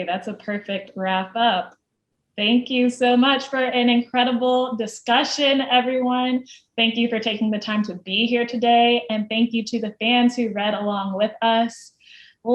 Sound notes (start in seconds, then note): none